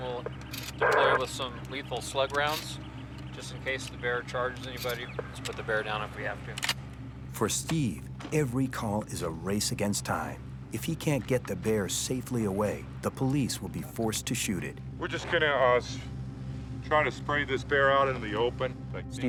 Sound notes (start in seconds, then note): 6.7 pump clacking